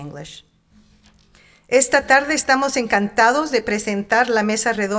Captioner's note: speaking in Spanish